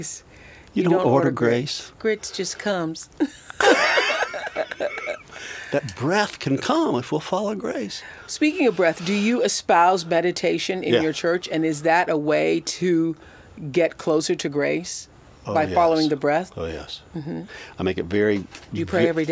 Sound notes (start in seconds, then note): 3.2 both laugh